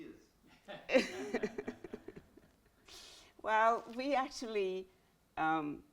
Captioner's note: chuckles